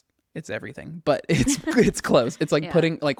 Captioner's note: laughs